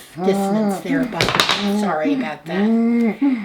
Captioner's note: cane clacks